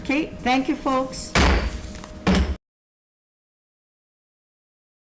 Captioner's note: gavel banging